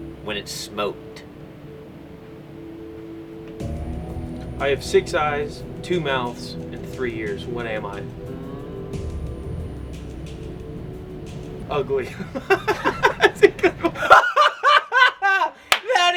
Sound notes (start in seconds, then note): 2.2 suspense music; 9.1 suspense music; 12.0 laughs